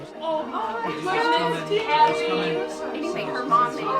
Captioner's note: women chatting